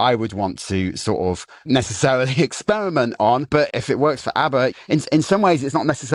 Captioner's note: chuckles